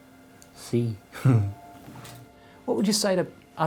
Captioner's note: chuckles softly